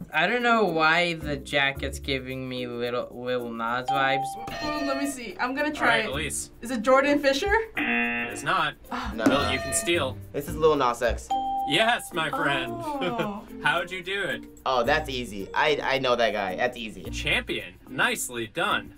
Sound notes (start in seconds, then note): 3.8 ding; 7.8 buzzer; 9.3 ding